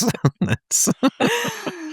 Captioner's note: laughing